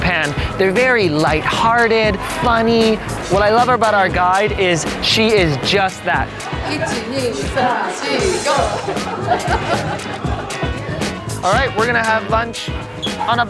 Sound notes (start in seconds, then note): 6.6 both chant in Japanese